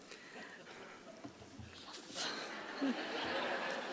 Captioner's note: laughter